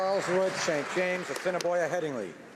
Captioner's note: applause